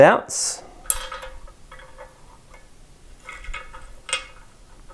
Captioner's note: scraping